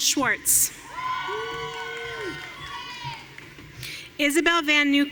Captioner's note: audience cheering